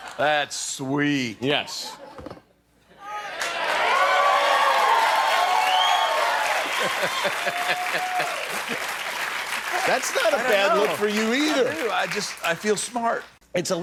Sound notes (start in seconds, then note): 3.0 cheering